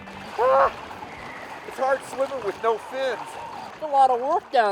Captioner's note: yelps